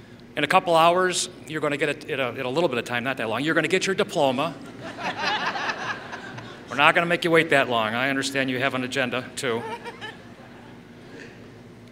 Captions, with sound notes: In a couple hours, you're going to get, in a little bit of time, not that long. You're going to get your diploma. [Laughter] We're not going to make you wait that long. I understand you have an agenda too.